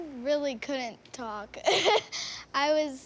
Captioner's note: nervous laugh